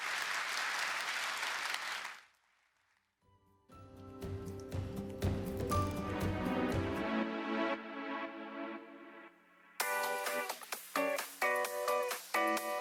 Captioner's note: applause